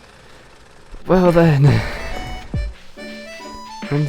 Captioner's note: sighs; exasperated